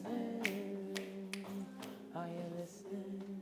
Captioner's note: fingers snap